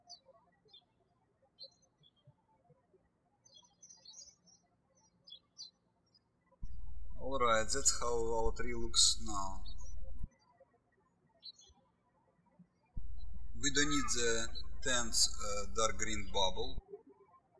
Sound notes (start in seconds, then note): 0.1 birds chirping; 10.6 birds chirping; 17.3 birds chirping